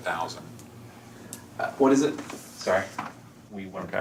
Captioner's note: on phone